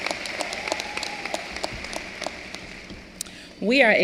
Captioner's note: applause